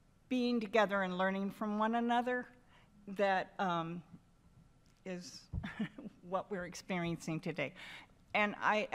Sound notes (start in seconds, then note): 5.6 chuckles